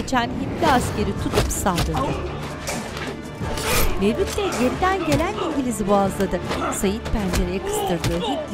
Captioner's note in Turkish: Dövüş sesleri